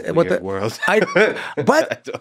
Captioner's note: laughs